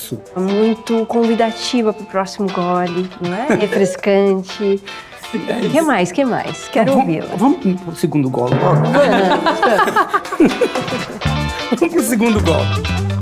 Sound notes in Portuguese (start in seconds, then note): 8.9 risos